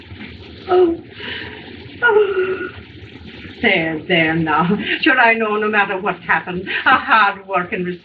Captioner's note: moaning